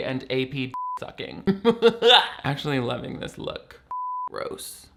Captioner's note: laughs